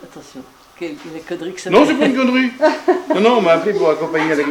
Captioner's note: laugh